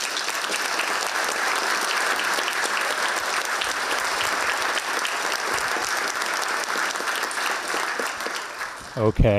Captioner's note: audience applause